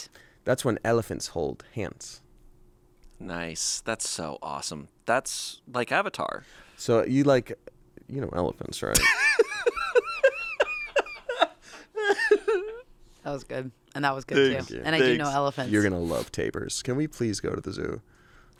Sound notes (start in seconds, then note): 9.0 laughs